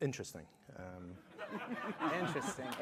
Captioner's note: laughter